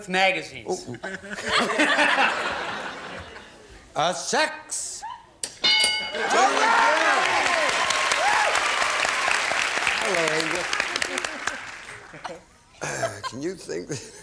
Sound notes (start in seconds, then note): 0.8 laughter; 5.6 bell; 6.2 applause